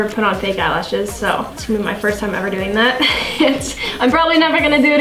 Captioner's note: giggles